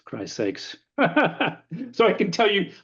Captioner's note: laughs